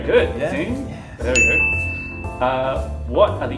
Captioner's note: ding!